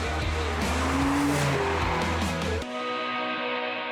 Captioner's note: energetic music; engine revving